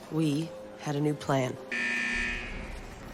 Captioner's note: door buzzing